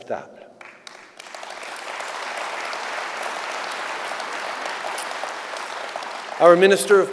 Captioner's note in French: Applaudissements